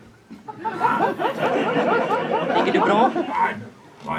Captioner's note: audience laughs